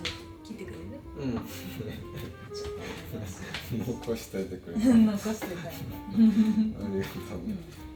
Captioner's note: laughs